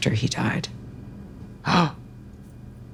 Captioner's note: Trixie gasps